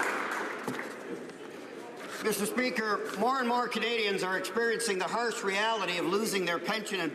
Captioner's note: some Applause